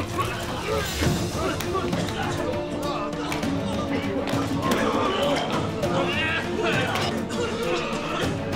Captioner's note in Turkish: Öksürme sesleri